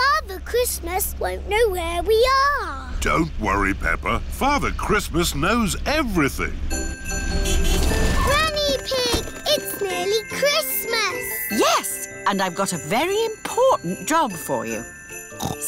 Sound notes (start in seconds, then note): 7.0 horn honks